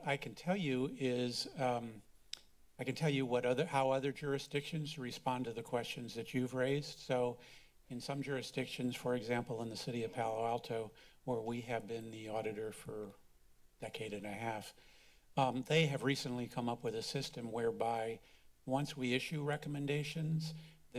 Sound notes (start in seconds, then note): 2.3 clicks tongue